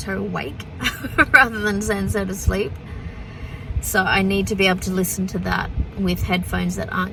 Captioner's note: laughs